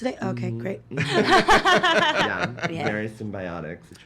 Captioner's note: laughing